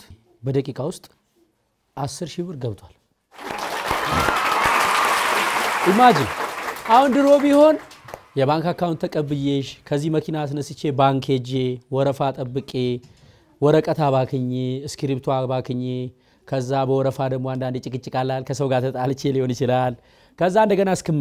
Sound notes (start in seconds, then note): 3.3 applause